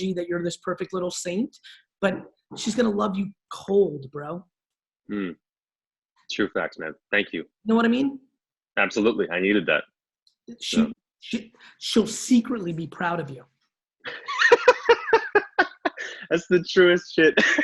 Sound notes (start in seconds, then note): 14.0 laughs